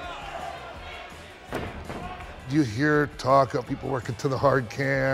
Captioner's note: applause